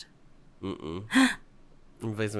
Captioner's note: gasps